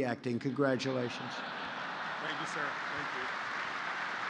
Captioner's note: laughter and applause